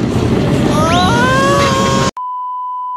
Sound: Pooh Screaming

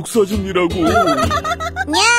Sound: laughter

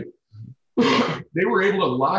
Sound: Tom coughs

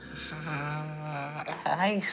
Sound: groans

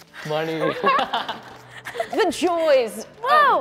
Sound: all laughing

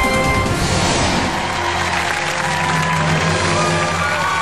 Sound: audience cheering

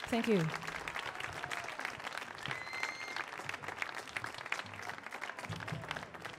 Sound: audience clapping; audience cheering

